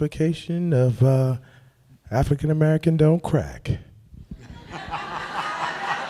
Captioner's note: laughter